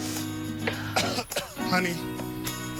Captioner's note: coughs